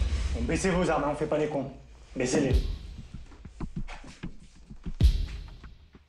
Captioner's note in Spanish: Habla en francés